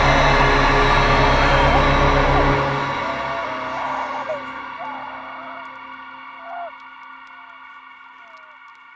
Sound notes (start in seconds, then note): 5.5 Brigit screaming